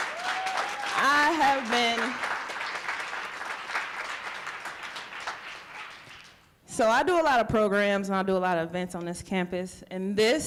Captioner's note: applause